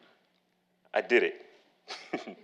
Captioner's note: laughing